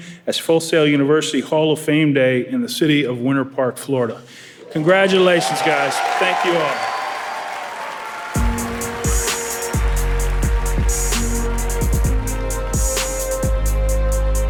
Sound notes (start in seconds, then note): 7.0 audience applauding; 8.3 upbeat music